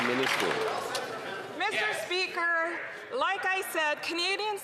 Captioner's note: some Applause